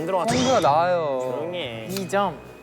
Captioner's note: squabbling